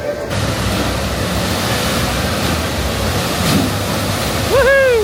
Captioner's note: water splashing